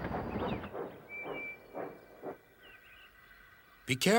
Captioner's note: peeps